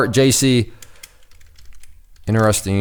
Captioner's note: typing